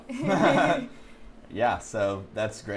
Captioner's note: laughs